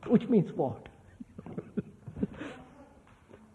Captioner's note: laughs